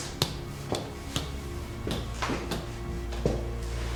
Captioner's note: footsteps padding